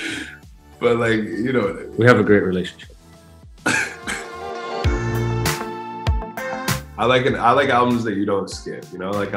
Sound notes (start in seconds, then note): 3.6 laughing; 4.6 upbeat music